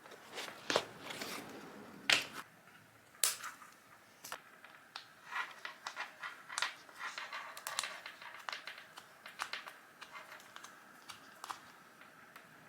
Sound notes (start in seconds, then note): 0.3 stiffener board makes noise as it gets pulled out; 3.3 scissors snip; 5.3 metal rubs on metal as screwdriver twists out screw